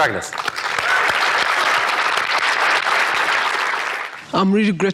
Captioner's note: applause